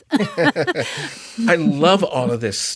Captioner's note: laughter